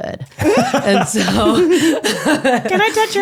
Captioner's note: laughing